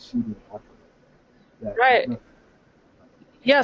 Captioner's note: voiceover